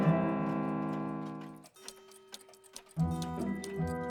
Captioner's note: clocks ticking